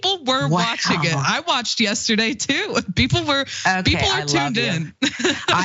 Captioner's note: laugh